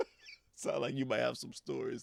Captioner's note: laughing